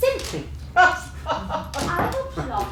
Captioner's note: laughter